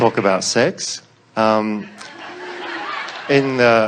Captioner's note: audience laughs